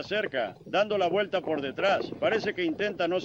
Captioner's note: hoofbeats